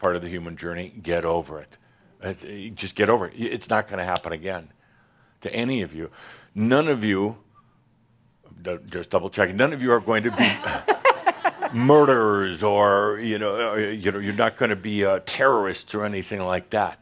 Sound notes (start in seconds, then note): 10.2 some laughter